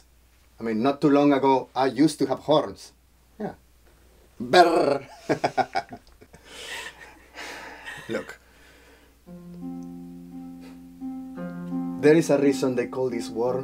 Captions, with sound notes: Yes, I mean not too long ago I used to have horns, yeah. (chuckles) Look. There is a reason they call this world